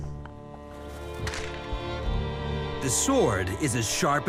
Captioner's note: metal clanging